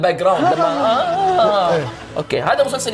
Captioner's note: awful imitation of laughter